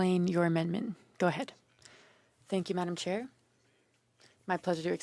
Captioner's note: speaking French